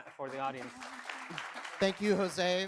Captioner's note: audience applauds